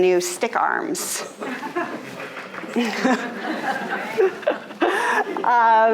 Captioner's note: audience laughing